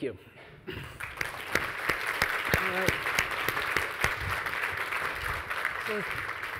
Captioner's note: audience and panelists applauding